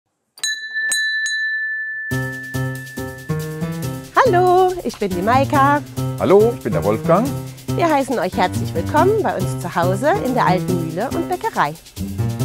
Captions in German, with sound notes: (Türklingeln) (Flotte Musik) Hallo, ich bin die Maika. - Hallo, ich bin der Wolfgang. Wir heißen euch herzlich willkommen bei uns zu Hause in der alten Mühle und Bäckerei.